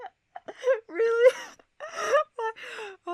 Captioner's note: laughs